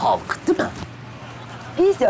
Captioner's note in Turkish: Gülme efekti